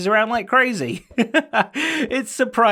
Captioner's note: laughs